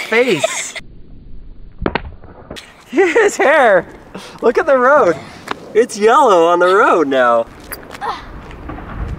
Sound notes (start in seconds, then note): 0.0 laughs; 1.8 toy falls on concrete